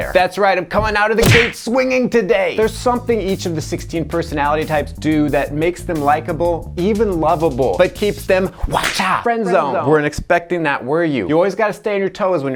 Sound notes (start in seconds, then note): 8.7 whip cracks